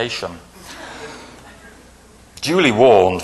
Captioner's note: laughing